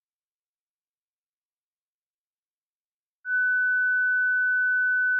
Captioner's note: none